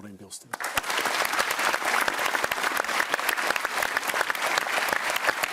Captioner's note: applause